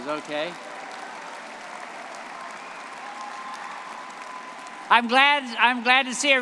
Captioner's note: audience cheering and applauding